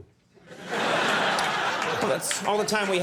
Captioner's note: audience laughing